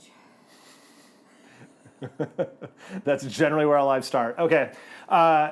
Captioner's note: chuckles